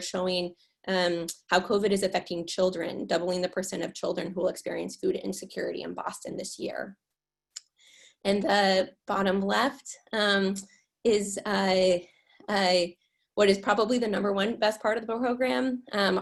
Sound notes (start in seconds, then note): none